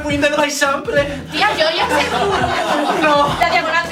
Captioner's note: laughs